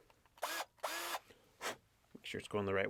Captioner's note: power drill whirring